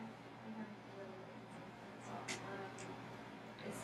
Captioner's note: speaking softly